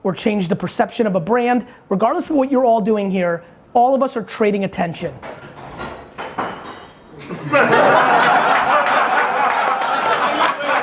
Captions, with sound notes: or change the perception of a brand, regardless of what you're all doing here, all of us are trading attention. (materials clattering) (audience laughing)